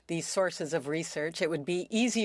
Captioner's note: speaking French